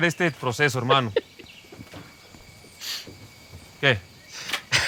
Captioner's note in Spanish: Risas